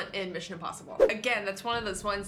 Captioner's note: fwip